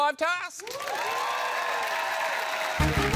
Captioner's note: cheering, applause